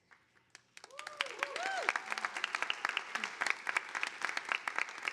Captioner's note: audience applauding